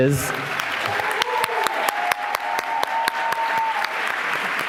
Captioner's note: applause